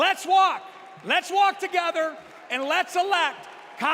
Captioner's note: applause